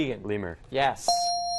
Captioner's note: ding